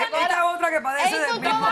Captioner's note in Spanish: habla en portugués